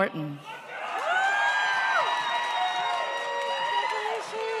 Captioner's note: audience cheers